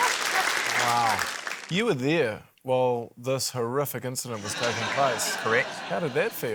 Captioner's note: laughter